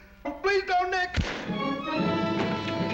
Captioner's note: gun shot